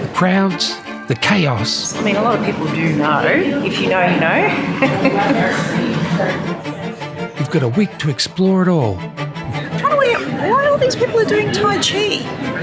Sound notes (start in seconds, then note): 4.4 laughter